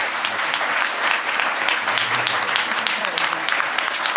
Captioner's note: everyone applauds